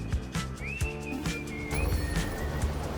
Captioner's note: game chimes; upbeat whistling music